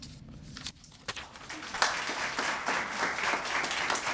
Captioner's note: applause